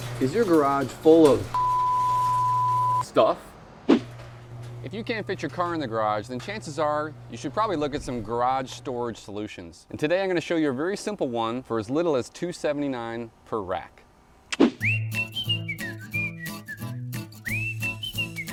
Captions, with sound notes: - Is your garage full of (beep) stuff? If you can't fit your car in the garage, then chances are, you should probably look at some garage storage solutions. And today I'm gonna show you a very simple one for as little as two 279 per rack. (air whooshing) (fast upbeat music)